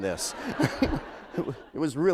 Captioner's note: laughter